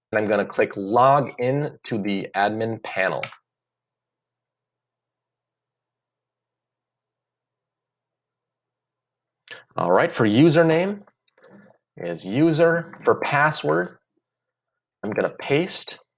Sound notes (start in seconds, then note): 3.1 page loading; 3.2 clicks